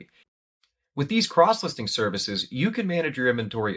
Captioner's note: voiceover